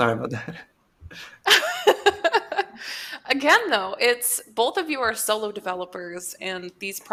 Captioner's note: laughs